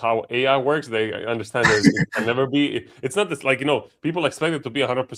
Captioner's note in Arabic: ضحك